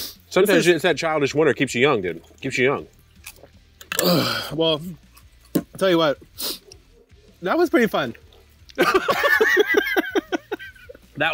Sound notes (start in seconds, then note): 3.9 grunts; 6.3 sniffs; 8.7 both laughing